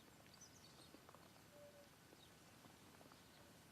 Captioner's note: birds chirping